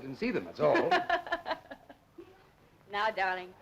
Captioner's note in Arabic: سارة تضحك